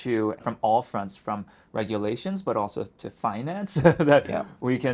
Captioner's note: chuckles